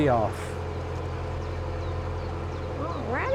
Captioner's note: birds chirping